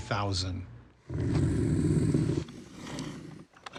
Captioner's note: wolverine growls